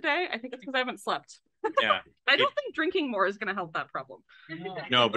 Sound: laughs

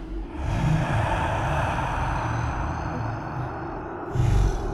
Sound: ghostly voice

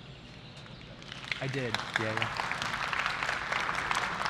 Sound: applause

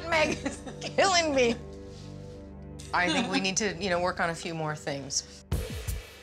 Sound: laughs

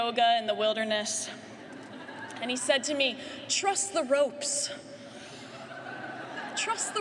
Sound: laughter

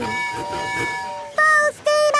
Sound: tooting

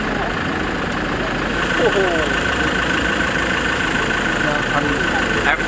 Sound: Maltese, frowns as best as he can, but just growls

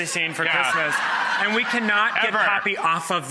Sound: audience laughter

